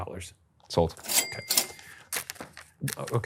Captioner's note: cash register dinging